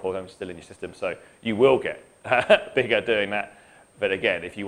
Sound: laughing

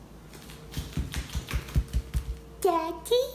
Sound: footsteps

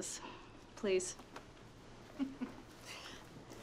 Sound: laughs

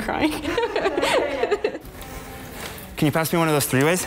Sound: laughs

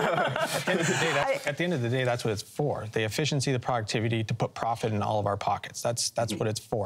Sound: laughter

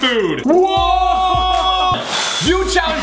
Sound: both men shout

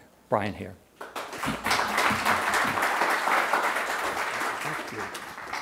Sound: audience applauding

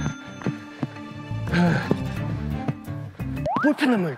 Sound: very out of breath

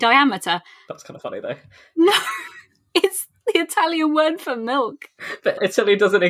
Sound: laughing

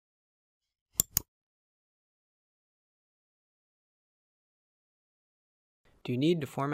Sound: click

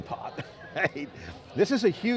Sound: laughs

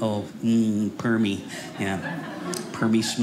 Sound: audience laughing

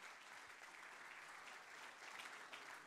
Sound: applause

